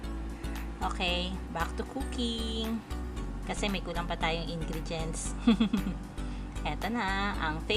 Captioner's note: laughing